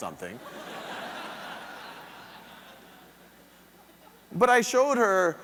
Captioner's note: audience laughing